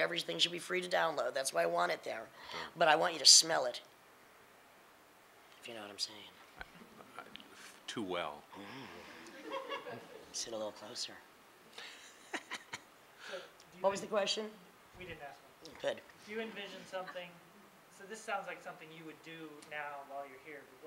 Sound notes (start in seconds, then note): 9.0 laughing; 11.8 laughing